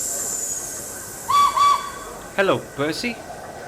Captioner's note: Edward whistles